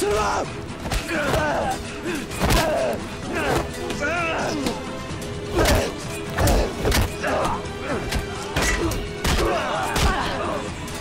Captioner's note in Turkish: Dövüş Sesleri